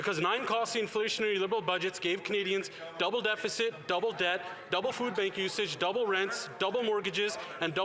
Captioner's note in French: voix de l'interprète